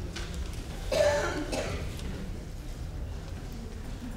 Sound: coughing

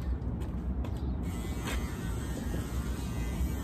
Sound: electric razor sounds

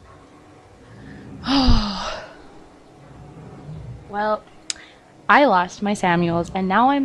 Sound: sighs

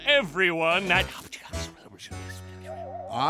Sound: whispering

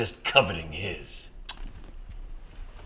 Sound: tsks

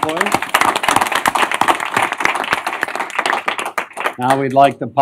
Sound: applause

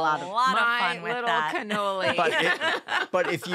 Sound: laughing

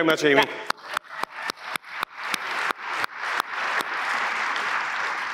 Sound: applause

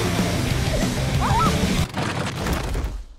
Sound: exclaiming; vehicle clattering

